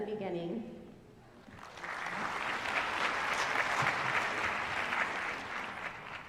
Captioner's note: applause